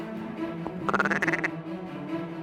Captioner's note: duck calls